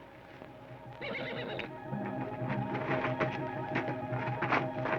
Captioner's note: horse whinnies